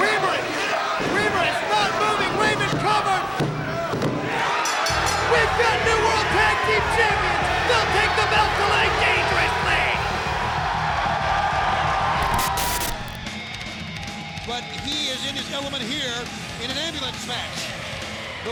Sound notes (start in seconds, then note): 4.4 bell dings; 4.6 hand pounding; 10.6 crowd cheering; 12.2 static hissing; 13.3 upbeat music